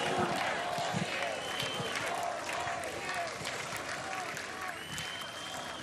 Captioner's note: applause